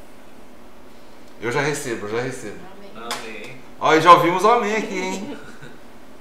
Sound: laughs

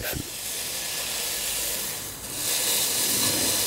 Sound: hiss

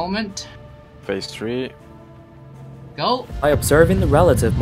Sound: on the radio

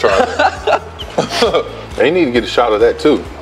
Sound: both laughing

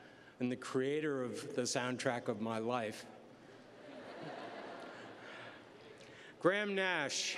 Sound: laughter

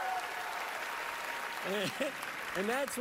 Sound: cheering, applause

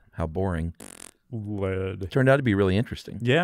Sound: blows raspberry

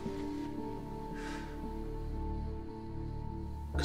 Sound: sighs

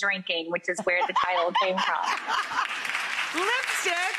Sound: laughs; audience clapping

